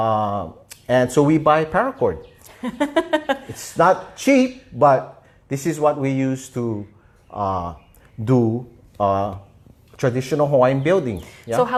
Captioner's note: laughter